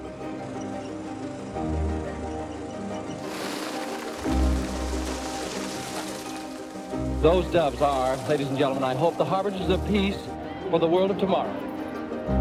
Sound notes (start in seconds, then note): 0.3 inspirational orchestral music continues; 3.0 wings fluttering